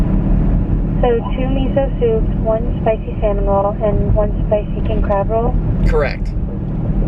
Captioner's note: woman on phone